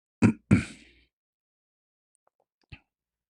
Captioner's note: clears throat